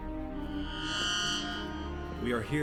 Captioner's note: electronic beeping